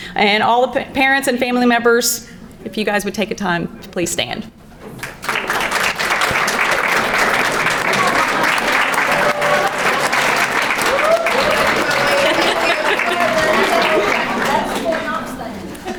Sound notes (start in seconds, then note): 4.9 crowd applauding; 5.3 background chattering